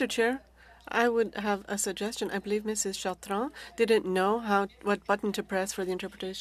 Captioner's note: speaking French